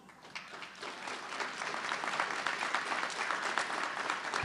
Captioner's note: audience clapping